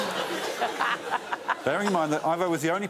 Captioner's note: laughter